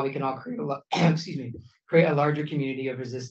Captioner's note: coughs